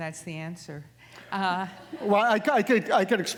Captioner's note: audience laughing